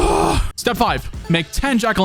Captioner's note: out of breath